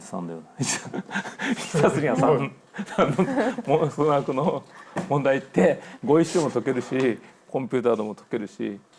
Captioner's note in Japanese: 笑い